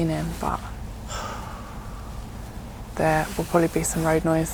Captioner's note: uncomfortable sigh